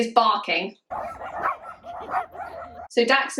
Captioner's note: barking